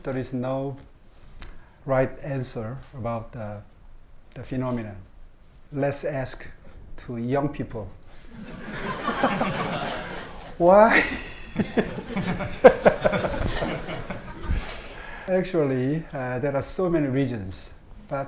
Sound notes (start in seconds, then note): 7.9 laughs; 8.3 audience laughing; 11.3 laughs; 12.2 audience laughing